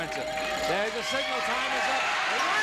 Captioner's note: ringing; dinging